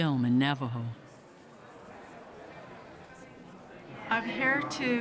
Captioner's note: people talking in background